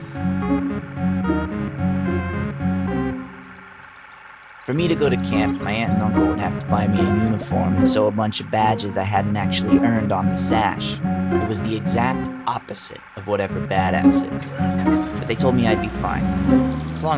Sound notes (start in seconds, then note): 14.4 car engine starting